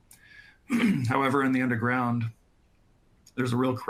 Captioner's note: clears throat